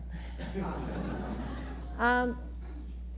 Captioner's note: laughter